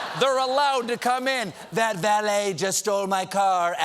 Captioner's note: laughter